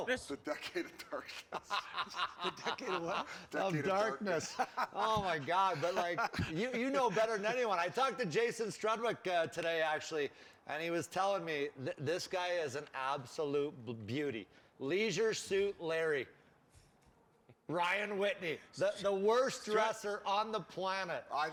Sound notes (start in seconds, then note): 2.4 laughing